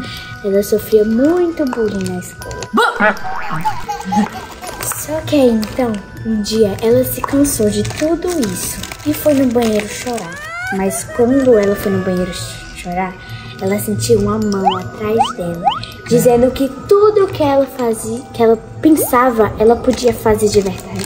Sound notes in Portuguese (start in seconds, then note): 2.8 risada de bebê; 3.0 som de mola; 9.7 som de choro